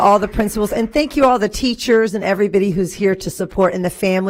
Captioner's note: applause